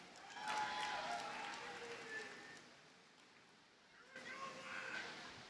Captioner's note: audience cheers and applauds